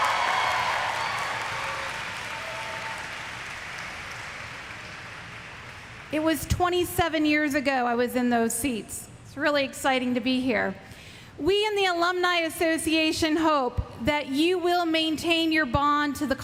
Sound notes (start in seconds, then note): 0.0 applause; 2.5 cheers